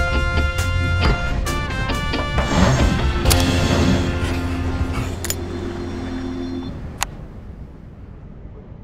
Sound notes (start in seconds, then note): 0.0 chill music; 4.0 pencil writing; 5.2 key click